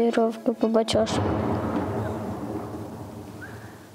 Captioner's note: explosion sound